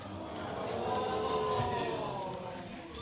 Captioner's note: audience exclaiming